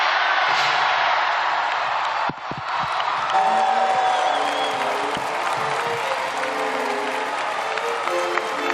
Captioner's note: cheers and applause